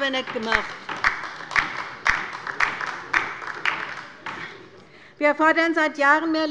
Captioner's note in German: Beifall bei der LINKEN